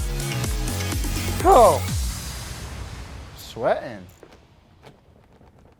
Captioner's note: groans